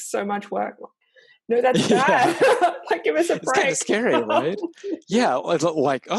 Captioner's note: laughing